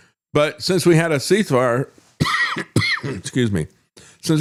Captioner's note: coughs